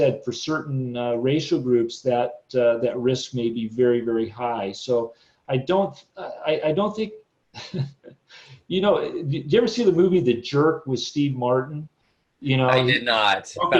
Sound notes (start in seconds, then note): 7.5 chuckles